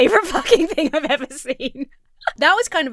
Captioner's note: Emma laughs